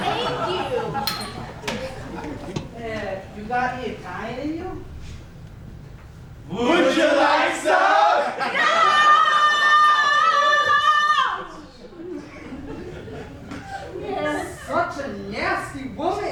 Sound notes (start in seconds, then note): 1.0 ding; 8.6 the men laugh together